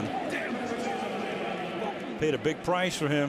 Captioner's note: pa announcement